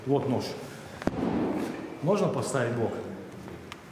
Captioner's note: fist thudding